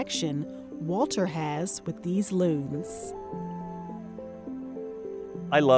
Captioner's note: loon calling